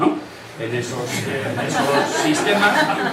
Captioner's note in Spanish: risas